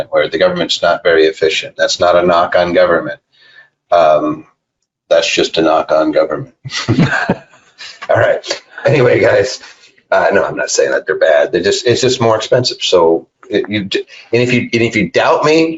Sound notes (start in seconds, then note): 6.5 laughing